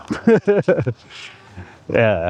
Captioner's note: laughing